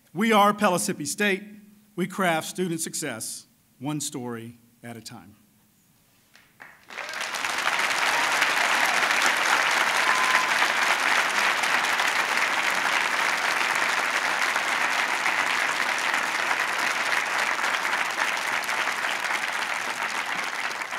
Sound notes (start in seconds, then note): 6.4 applause